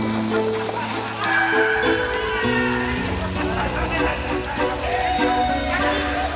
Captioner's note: gang members howl and yell